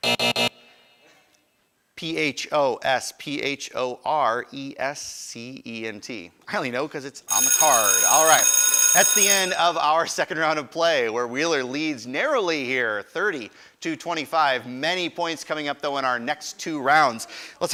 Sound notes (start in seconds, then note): 0.0 buzzer; 7.3 ringing